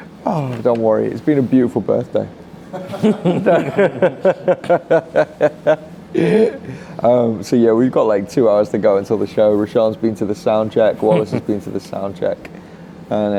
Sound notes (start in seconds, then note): 2.7 people laughing